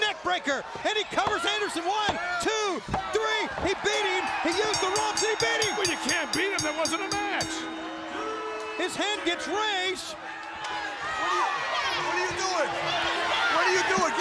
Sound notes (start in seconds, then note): 4.2 bell ringing; 10.8 crowd chatter; 11.7 crowd cheering